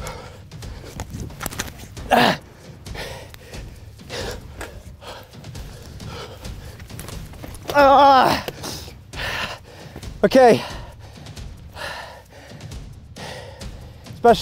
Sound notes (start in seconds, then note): 0.1 panting; 7.4 groans; 10.4 panting